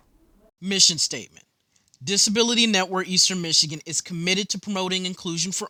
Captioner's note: voiceover